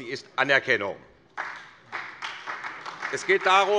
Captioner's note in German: Beifall SPD